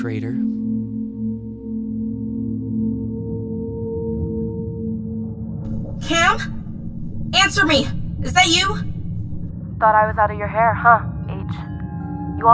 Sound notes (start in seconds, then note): 7.3 electronic sounds; 10.5 transition music